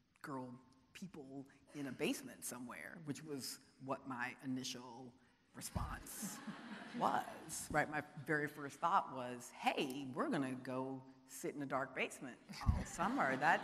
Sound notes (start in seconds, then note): 6.2 audience laughing